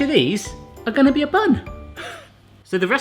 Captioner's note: gasping